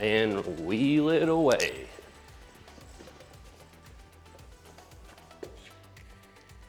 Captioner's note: blank Audio